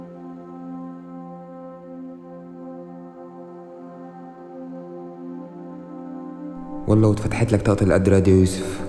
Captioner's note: voice over